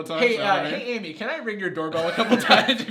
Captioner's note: laughs